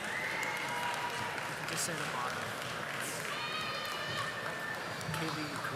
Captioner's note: audience applauding